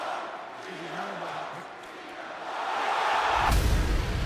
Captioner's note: crowd cheering